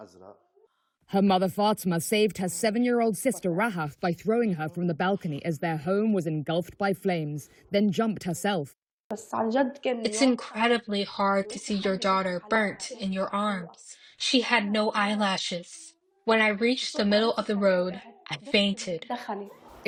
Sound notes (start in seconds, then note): 1.0 voice-over; 10.9 through translator